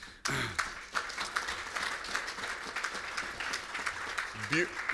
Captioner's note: applause